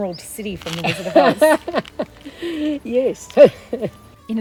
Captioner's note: laughs